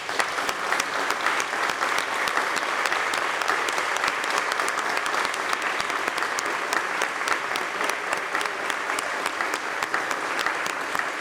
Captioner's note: applause